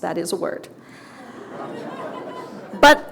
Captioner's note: audience laughter